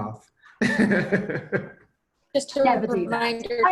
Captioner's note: laughs